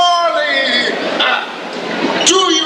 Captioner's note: scoffs